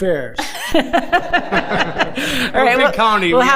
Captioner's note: board Members laughing